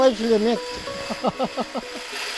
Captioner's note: laughs